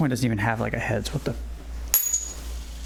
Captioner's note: disappointed coin noises